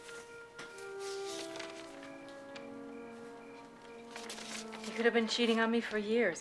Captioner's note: soft music; crickets chirping